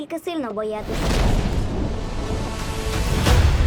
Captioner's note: thunder rumbling; dramatic music playing